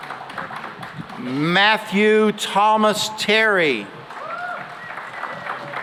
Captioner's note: cheering and applause